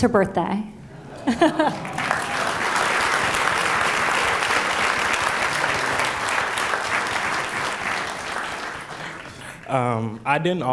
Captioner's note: laughs; applause